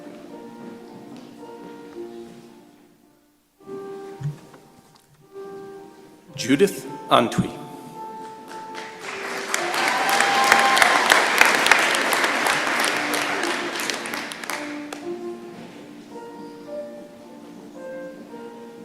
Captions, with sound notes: Judith Antwi. [applause]